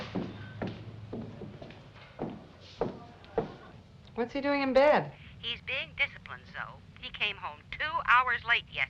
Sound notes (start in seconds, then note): 5.6 on phone